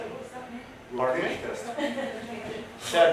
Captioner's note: chatter with audience